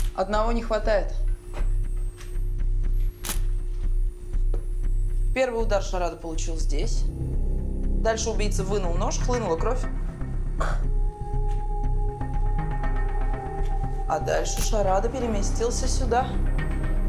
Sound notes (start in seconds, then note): 3.2 camera clicking